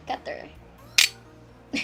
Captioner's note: cutter noises